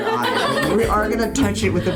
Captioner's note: laughs